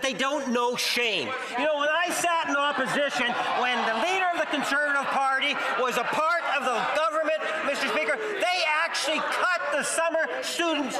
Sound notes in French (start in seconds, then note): 1.4 voix de l'interprète